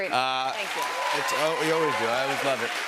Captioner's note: cheers and applause